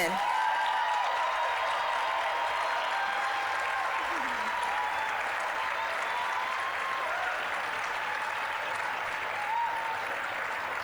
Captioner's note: applause, cheering